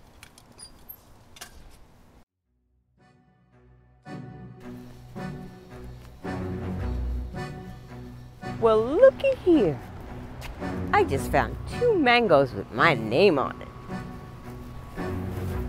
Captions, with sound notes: (fence closes) (dramatic music playing) Well, lookie here. I just found two mangoes with my name on it.